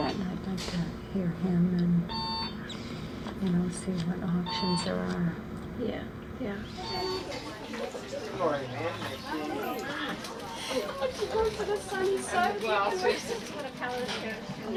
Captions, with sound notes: And I’d like to hear him and, you know, see what options there are. Yeah. [ Chattering ] [ Chattering, Laughing ]